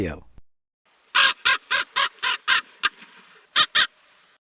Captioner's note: raven cawing